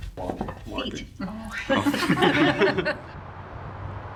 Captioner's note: laughter